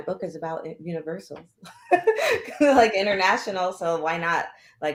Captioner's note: laughter